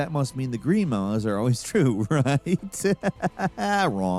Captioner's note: laughing